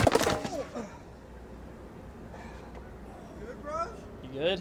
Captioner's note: grunts